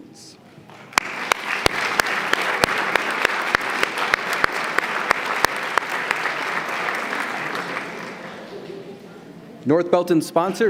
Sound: applause

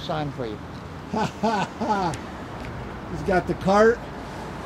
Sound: laughs

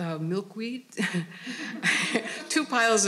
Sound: all laughing

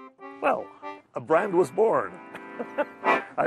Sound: laughs

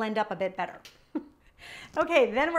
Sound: chuckling

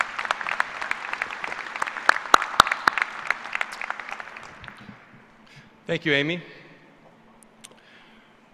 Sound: applause

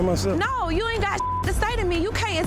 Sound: beep

